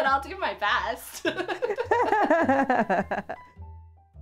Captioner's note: even more laughter